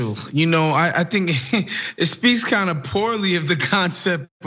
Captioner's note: laugh